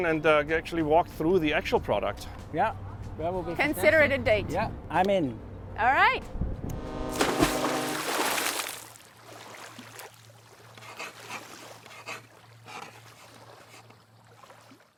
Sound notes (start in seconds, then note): 6.6 boat horn blaring; 7.0 water splashing; 9.4 waves sploshing